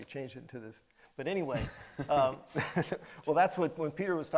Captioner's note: laughs